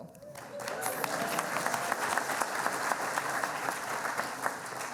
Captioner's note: cheering and applauding